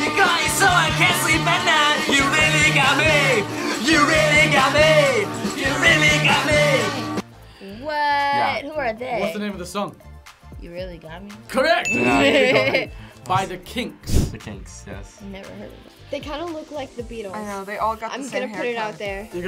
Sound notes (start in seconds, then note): 11.9 laughs